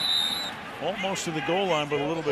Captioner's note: whistle